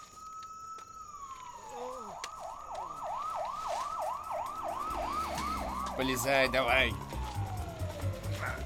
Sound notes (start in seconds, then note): 2.0 leonard groaning; 4.3 wailing continues, intensifying; 8.4 grunts